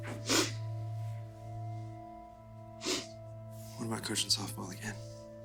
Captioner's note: Ally sniffling